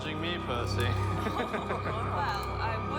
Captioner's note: all laughing